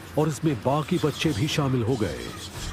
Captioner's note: monkeys shrieking